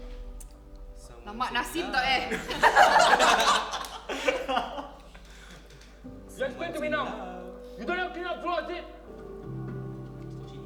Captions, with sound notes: - This scene is so long. (everyone laughs) - Someone's in love.